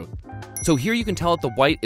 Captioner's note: dings